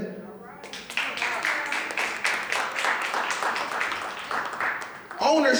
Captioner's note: clapping